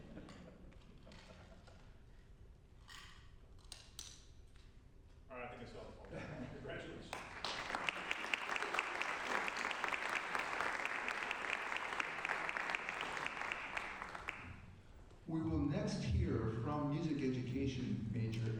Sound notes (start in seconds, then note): 9.3 applause